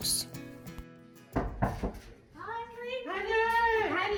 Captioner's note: knocking on door